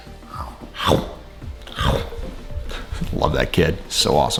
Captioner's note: eating sounds